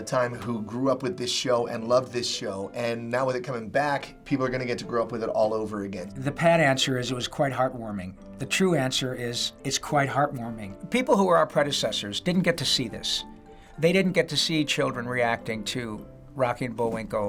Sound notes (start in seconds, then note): none